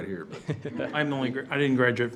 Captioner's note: all laughs